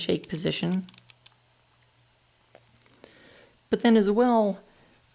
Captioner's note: mouse clicking